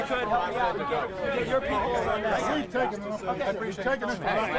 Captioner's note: indistinct shouting